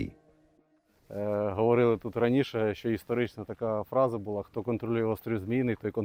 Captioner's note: speaking in foreign language